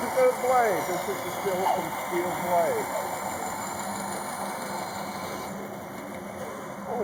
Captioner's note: band saw cutting